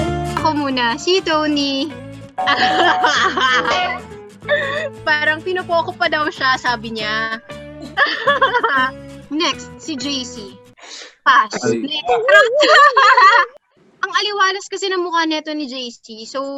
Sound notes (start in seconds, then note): 2.5 laughing; 7.9 laughing; 11.5 laughing